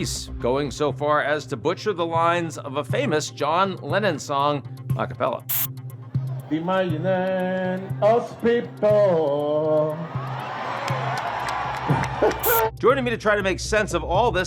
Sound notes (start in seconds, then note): 9.8 crowd cheering; 9.9 Nicolas chuckling